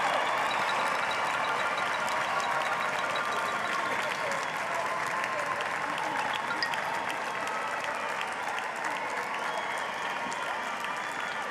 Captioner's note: applause